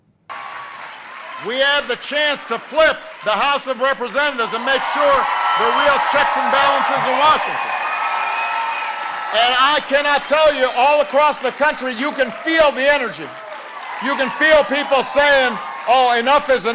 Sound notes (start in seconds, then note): 4.8 cheering and applause